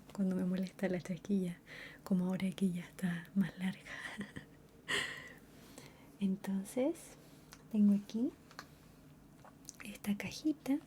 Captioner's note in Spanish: risas